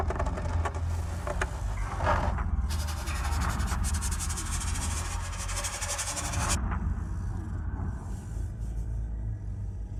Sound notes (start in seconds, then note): 0.1 pencil clattering; 2.7 pencil rasping